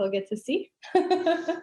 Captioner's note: laughter